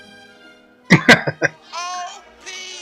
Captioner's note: laughing